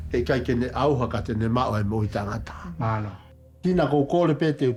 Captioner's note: praying in local language